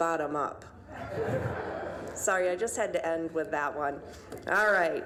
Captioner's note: audience laughing